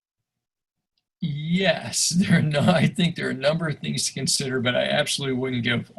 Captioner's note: chuckles